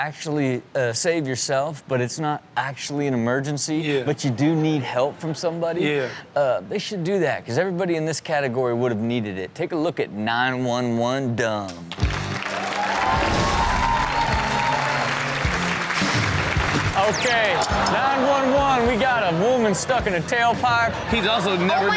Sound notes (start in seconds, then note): 12.0 crowd cheers